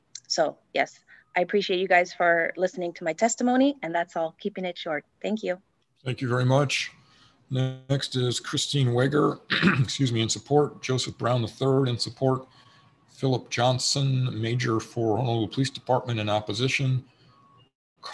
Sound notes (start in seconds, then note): 8.9 coughs